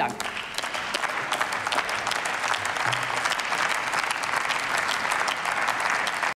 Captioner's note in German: Applaus